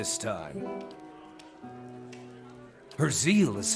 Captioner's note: background chatter; soft guitar